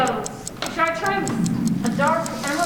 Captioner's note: other rain noises begin